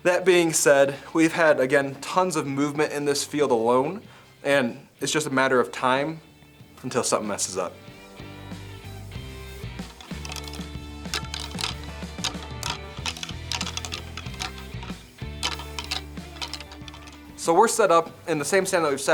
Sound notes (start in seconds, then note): 8.6 upbeat music; 9.7 antlers rattling